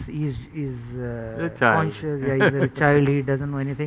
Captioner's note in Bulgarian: смях